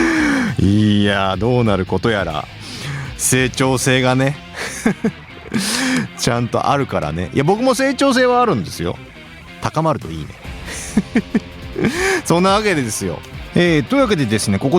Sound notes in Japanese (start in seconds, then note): 0.0 笑い; 4.5 笑い; 5.5 息をのむ音; 10.5 笑い